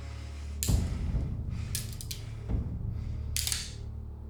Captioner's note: gun clicking